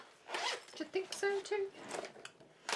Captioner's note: zipping